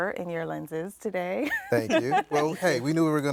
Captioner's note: laughs